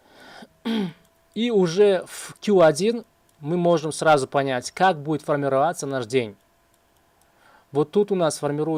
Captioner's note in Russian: откашливается